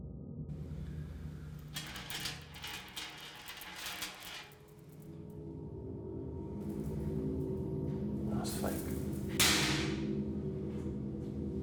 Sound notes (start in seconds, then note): 2.4 necklace rattling